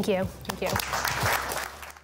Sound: applause

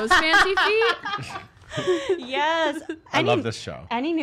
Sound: laughs

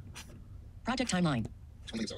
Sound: computer Voice

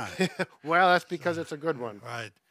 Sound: laughs

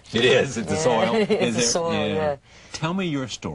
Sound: laughing

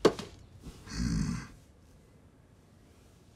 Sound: door closes; grunts

